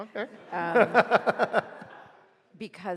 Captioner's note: group laughs